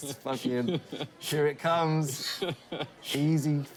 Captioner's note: laughter